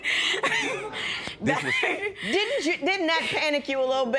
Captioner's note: chuckling; spectators murmur